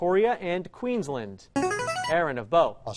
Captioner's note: chiming